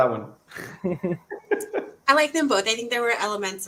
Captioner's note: soft laughter